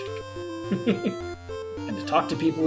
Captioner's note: chuckles